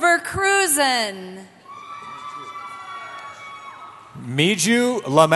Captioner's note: cheering